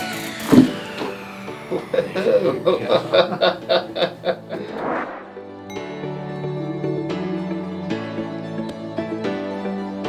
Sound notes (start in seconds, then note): 1.6 patient laughing; 5.8 bright upbeat music